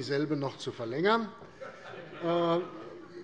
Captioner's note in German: Heiterkeit